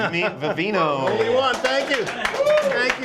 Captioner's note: applause